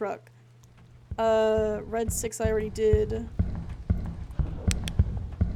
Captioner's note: footsteps Rapidly Approaching; footsteps Grow Faster; flashlight Clicks On